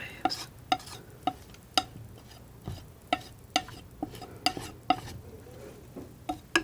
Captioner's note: tapping